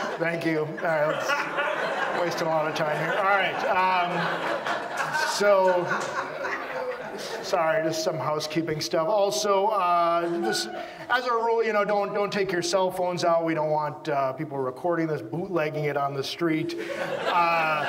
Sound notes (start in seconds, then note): 2.1 audience laughs